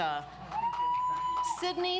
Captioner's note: audience applauds